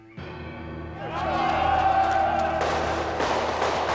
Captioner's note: Pria berteriak